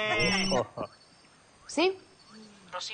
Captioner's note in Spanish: Suena el celular